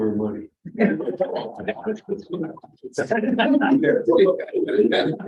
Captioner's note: laughter